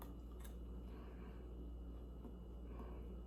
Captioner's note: munches